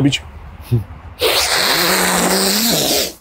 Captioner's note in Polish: odgłos wciągania nosem